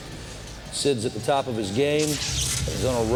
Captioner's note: electricity crackling